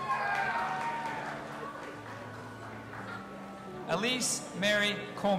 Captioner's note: audience applauding and cheering